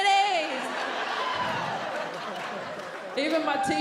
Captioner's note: audience laughing